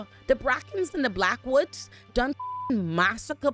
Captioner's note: beep